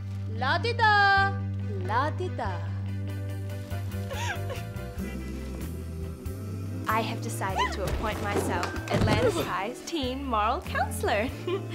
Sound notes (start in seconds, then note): 3.9 Violet sobs; 8.2 Violet yelps and thuds